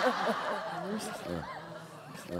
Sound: laughing

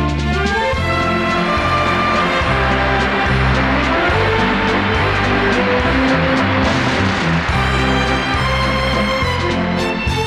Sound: audience applauding; slow waltz music

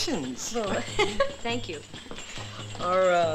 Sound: laughs

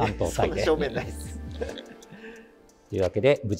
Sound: laughing

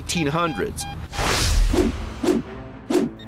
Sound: beeping; intense music

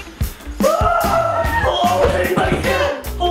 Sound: dad shrieking

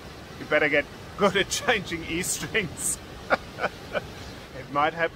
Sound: laughing

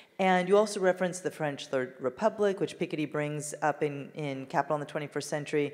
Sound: none

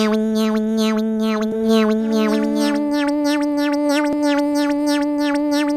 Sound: conveyor sound

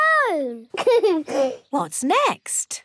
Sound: giggles

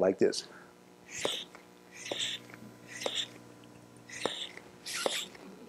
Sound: hissing and popping

